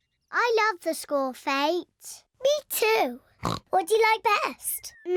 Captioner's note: oinks; bleats